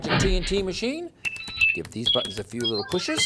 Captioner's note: bleeps-tinkle-bleeps!